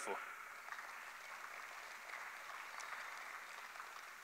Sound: applause

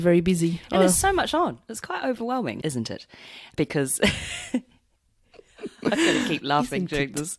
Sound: laughs

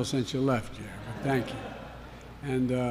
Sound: laughter

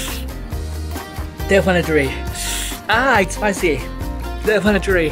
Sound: winces; winces

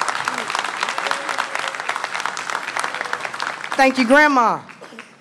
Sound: applause

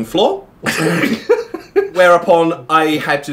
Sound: laughing

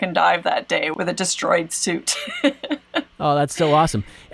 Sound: laughs

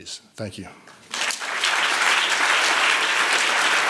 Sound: applause

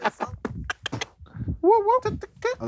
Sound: laughing; squeaking

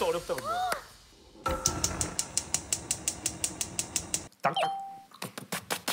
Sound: turning on gas stove

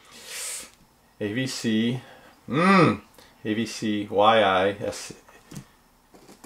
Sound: grunting

